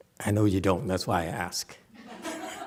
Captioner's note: audience laughs